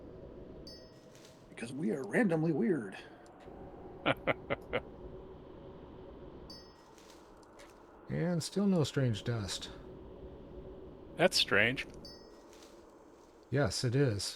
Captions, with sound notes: - Because we are randomly weird. (laughs) - And still no strange dust. - That's strange. - Yes, it is.